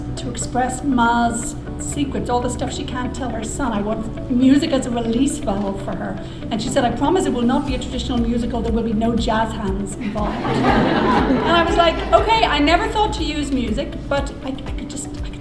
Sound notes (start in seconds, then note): 10.1 audience laughing